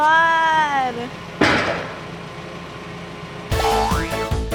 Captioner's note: barrel bangs on floor; upbeat music